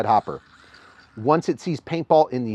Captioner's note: TFX 3 Hopper whirring